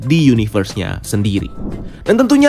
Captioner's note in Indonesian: suara transisi